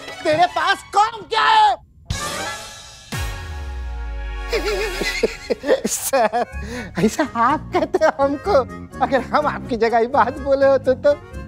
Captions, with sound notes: what else do you do? [laughs] Sir, you say that to me. If I were in your place, I would have.